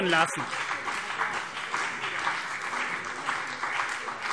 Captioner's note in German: Beifall CDU und BÜNDNIS 90/DIE GRÜNEN